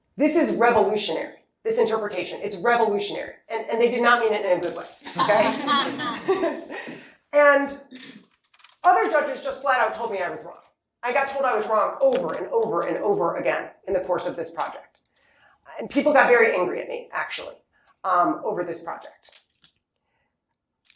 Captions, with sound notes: ''this is revolutionary.'' This interpretation is revolutionary and they did not mean it in a good way. [LAUGHTER] And other judges just flat out told me I was wrong. I got told I was wrong over and over and over again in the course of this project. And people got very angry at me, actually, over this project.